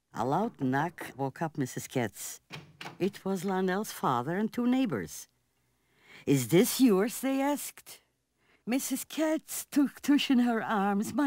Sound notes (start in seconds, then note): 2.4 door opening